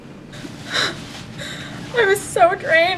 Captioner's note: crying